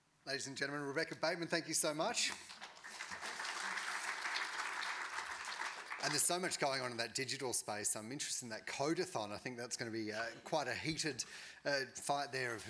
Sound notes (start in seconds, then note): 2.4 audience applauding